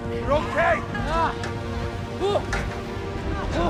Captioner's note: nathan grunting